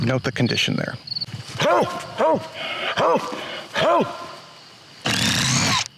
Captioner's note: loud hoarse barking